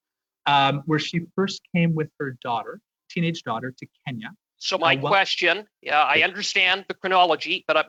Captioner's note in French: voix de l'interprète